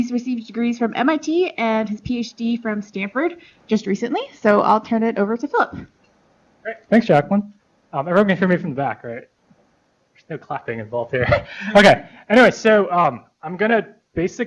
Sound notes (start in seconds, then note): 11.2 laughs